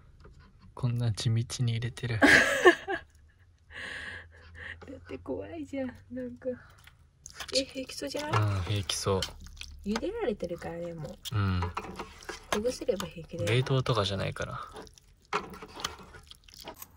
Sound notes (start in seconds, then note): 2.2 haha